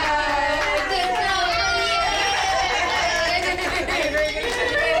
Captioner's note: cheering